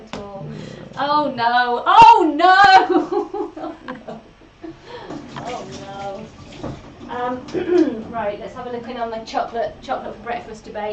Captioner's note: laughs